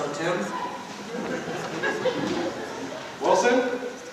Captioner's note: soft laughter